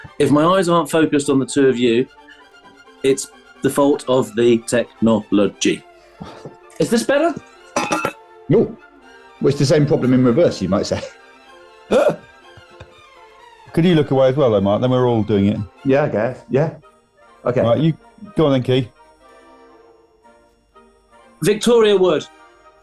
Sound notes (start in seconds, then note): 7.5 clattering; 11.9 laughing